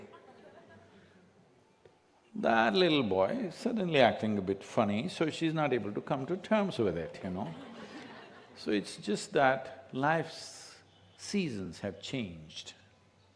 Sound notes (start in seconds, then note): 7.3 few laugh